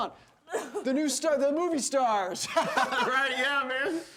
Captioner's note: laughing